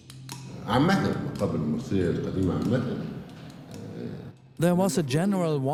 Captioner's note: in Arabic